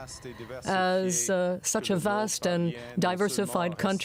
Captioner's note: speaking French